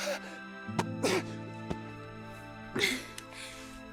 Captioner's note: Delilah sighs